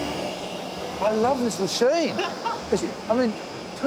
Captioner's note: laughs